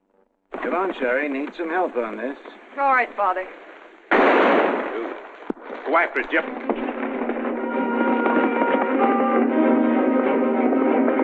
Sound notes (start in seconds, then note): 4.0 gunshot; 6.4 suspenseful music